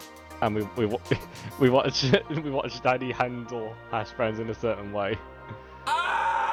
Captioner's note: laughing; screaming